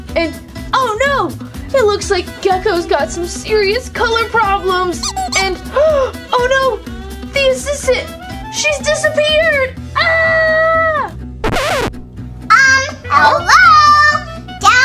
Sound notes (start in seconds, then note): 4.9 squeaky toy squeaks; 5.0 gasps; 10.0 screams; 11.4 record scratches